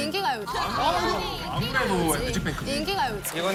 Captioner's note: quarreling